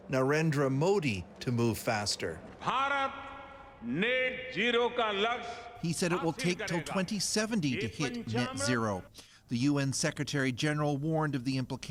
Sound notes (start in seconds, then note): 3.8 speaking Foreign Language